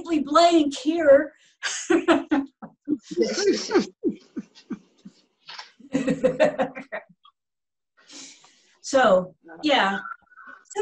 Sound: laughter

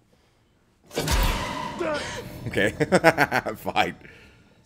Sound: laugh

